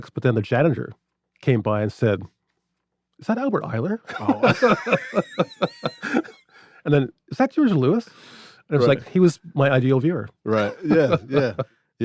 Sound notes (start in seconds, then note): 4.1 everyone laughs